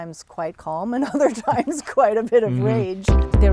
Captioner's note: laughs